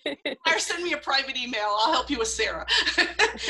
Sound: laughter

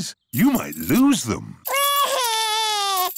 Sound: crying

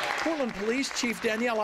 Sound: applause

